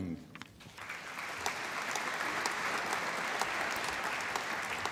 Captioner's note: applause